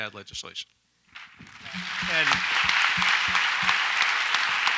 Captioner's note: audience applauds